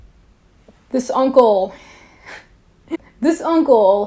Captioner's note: laughs